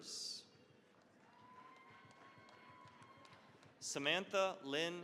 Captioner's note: cheering, applause